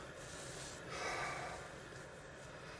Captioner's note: heavy breath